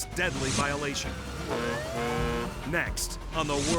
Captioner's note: horns honking; sirens blaring